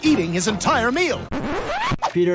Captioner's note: record skips